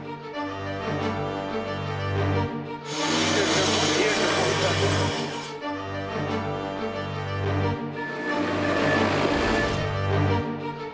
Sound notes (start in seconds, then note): 0.1 dramatic music; 2.8 saw grinding